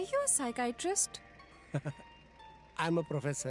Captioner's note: laughs